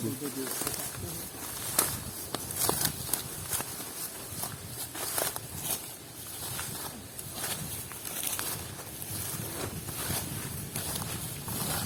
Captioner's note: footsteps tread scrub